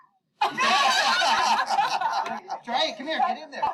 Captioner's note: laughter